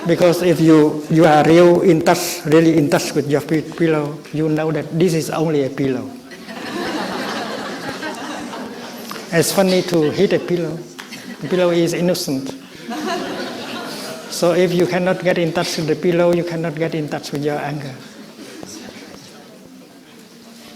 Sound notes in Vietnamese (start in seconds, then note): 6.0 tiếng cười